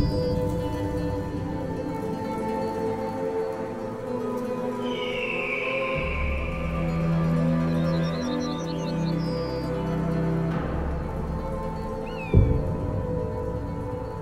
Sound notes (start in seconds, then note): 4.5 eagle whistles